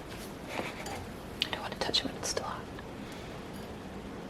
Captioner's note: whispers